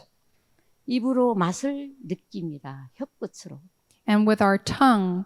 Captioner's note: speaking in foreign language